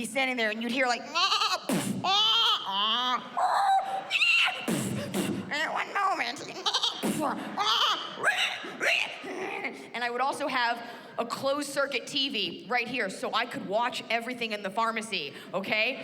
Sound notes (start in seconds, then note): 1.1 mimics animals squealing; 1.1 mimics bleating; 1.2 mimics thud and bleating; 4.1 mimics thud; 5.6 mimics bleating, thud, and animals squealing